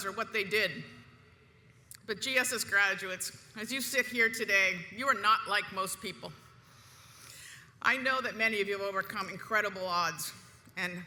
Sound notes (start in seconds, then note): none